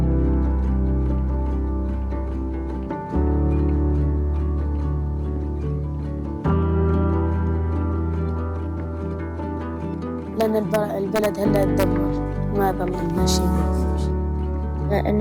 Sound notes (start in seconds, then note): 10.3 speaking foreign language